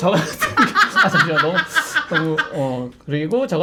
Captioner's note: bursting out in laughter